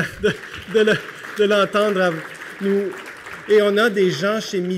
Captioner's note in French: Applaudissements